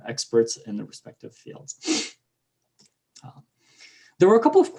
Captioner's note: blowing nose